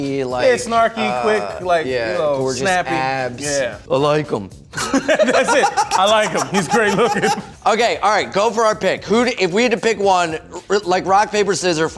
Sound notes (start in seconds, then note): 4.7 laughing